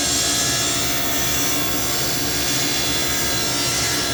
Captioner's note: sawing through wood